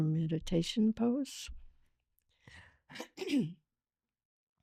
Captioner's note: clears throat